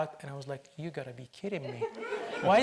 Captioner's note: audience laughs